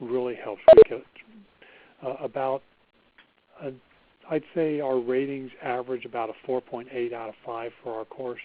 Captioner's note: beeping